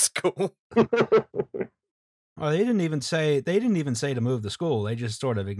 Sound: laughter

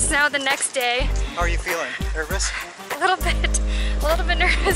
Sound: laughter

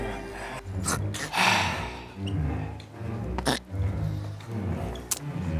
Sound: deep sigh; clicks his tongue

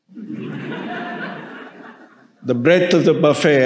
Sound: audience laughing

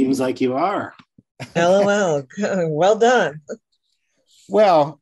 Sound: laughing

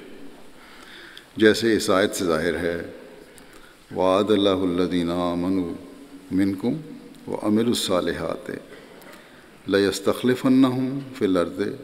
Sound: Arabic

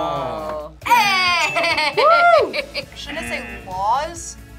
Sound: laughs

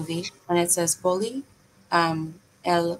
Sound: speaking in foreign language

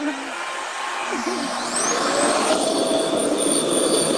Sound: RevAir whirs

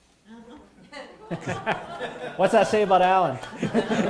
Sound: laughter

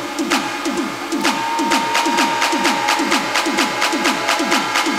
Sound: music intensifies; crowd cheers; music intensifies

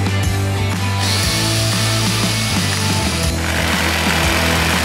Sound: saw revving

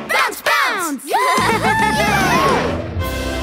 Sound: cheering

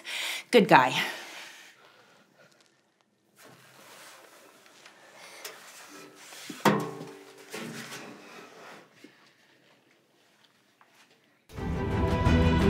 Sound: silence; music swells

